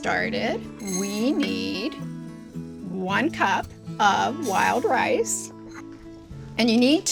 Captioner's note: rice swishing